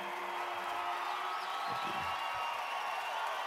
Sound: cheers and applause

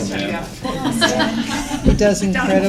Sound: laughter

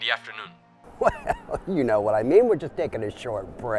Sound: laughs

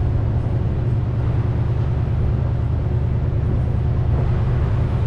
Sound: vehicles humming

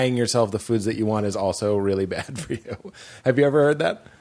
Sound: laughs

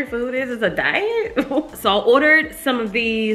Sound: chuckles

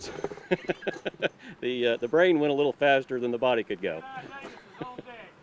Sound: laughter

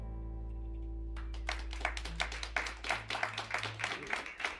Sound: cheers and applause

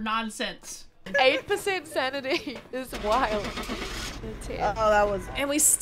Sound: laugh

